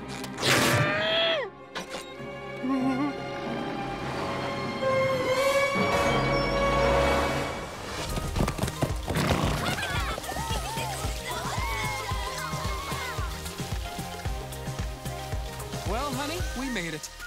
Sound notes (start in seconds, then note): 9.4 laughing